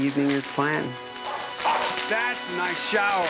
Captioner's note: fireworks sparking; Lukee barking